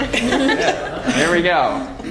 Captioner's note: laugh